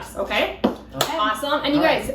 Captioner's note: claps